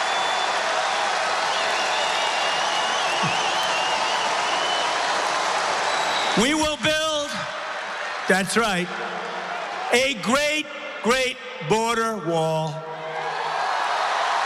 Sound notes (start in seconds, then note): 0.0 applause; 6.3 cheering